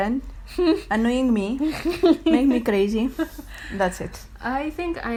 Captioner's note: laughs